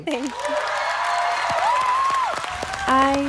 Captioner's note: applause